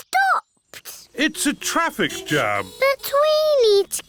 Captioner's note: horns toot